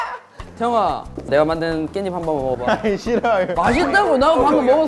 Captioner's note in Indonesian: Rengekan